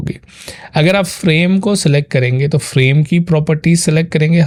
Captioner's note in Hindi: नाक से की जाने वाली आवाज़